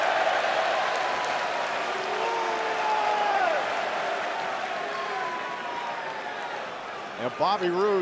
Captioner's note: crowd cheering